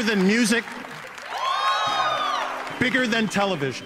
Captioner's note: crowd cheering louder